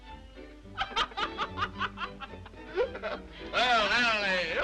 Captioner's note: Mildred and Harry laugh